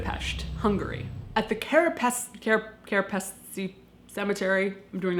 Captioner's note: stammering over word